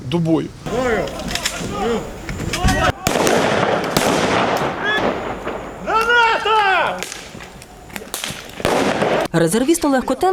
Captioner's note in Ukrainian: Звуки пострілів та вибухів